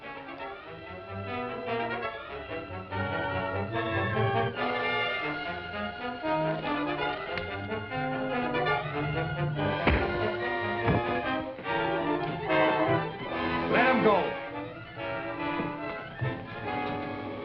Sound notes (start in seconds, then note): 9.6 body thuds; 9.7 punch thuds